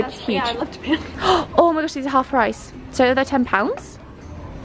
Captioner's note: gasps